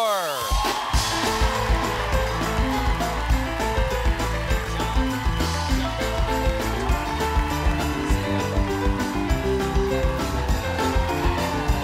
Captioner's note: applause